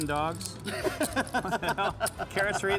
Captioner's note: laughing